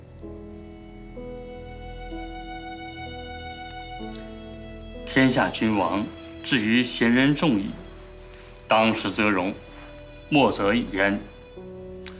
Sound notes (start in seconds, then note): 0.2 gentle music; 5.1 speaking Chinese